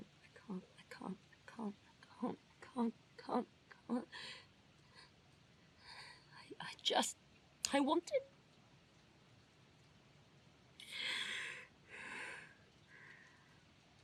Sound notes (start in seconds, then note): 1.9 heavy, shuddering breathing; 8.3 sighs